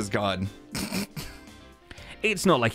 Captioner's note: snickers